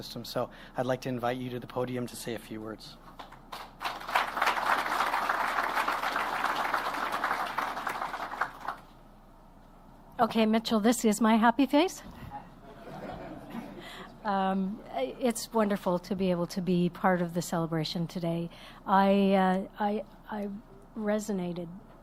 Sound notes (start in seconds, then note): 6.7 applause; 15.8 laughter